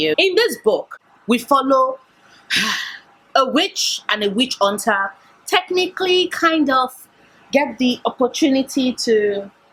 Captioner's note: sigh